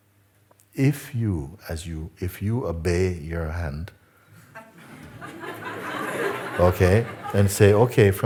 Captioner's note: laughter